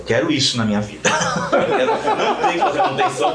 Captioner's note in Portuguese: Gargalhadas